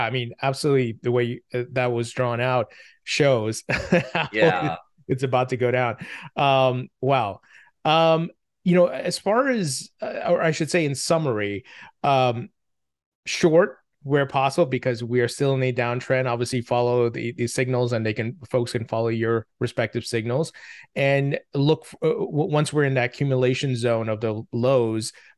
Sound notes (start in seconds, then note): 3.7 laughing